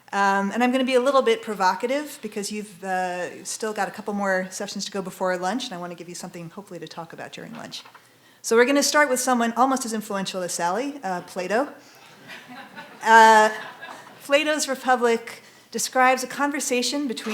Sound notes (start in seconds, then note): 12.0 audience chuckling